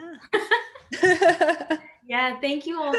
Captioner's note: panelists laughing